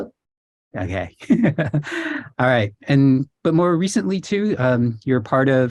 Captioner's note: laughs